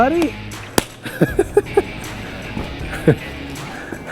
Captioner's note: chuckles